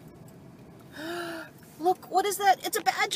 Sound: sharp intake of breath

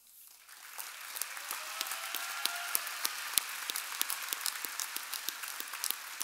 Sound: audience applauding and cheering

